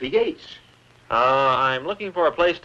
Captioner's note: foreign language greeting